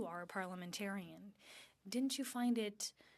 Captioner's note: speaking French